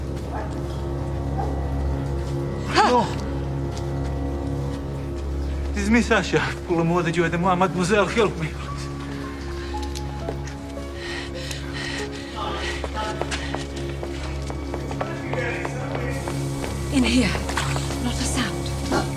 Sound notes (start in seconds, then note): 2.1 gasps; 12.0 voices in background